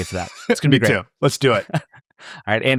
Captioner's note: laughs